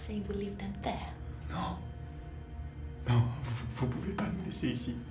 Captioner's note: speaks in French